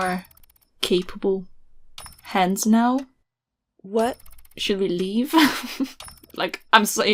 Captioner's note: laughs